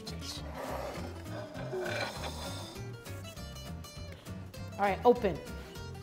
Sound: plate sliding on table

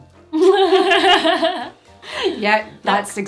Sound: they both laugh

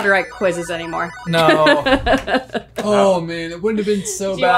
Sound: laughing

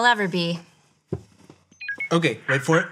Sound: tablet beeps; rubber chickens squeaks

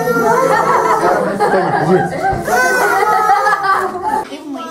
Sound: guests laughing

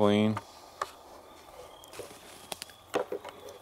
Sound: insects chirp

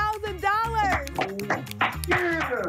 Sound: applause

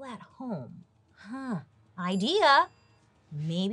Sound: bell dings

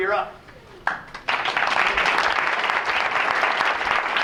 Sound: applause

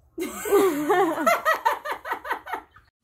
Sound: laughs

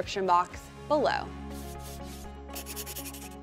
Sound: transition sound effect; pen scraping

